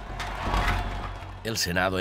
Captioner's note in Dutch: menigte juicht